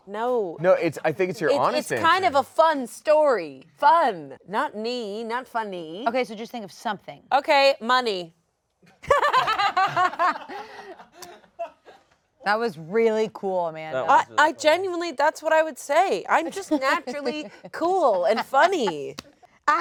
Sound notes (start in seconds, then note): 9.1 all laugh